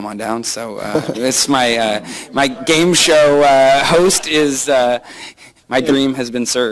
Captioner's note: laughter